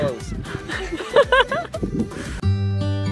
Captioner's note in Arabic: يضحك